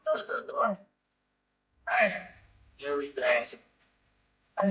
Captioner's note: grunting